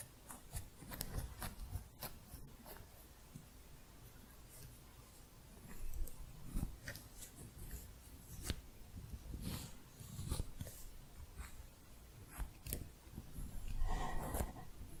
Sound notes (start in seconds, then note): 0.2 scissors sounds; 3.6 slow scissors sounds